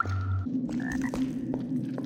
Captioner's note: ribbit